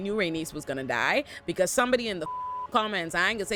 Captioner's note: beep